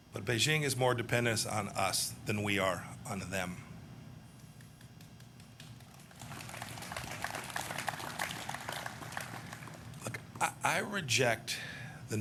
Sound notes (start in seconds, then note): 5.3 applause